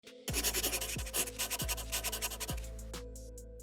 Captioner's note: pencil scribble SFX